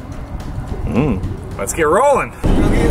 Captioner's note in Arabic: الشخير